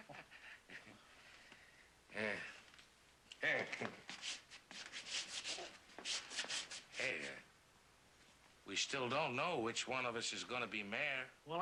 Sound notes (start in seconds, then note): 4.2 scraping floor with his shoe